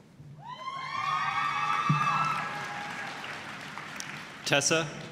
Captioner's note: applause, cheering